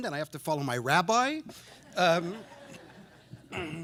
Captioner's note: laughter